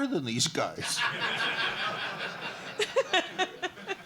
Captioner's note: laughter